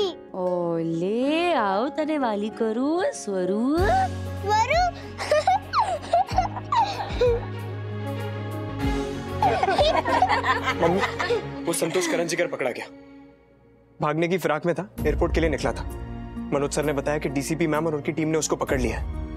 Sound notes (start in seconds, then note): 5.2 Swara chuckling; 9.4 laughing